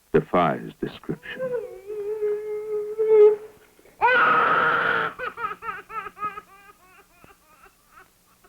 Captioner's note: crying and sounds of frustration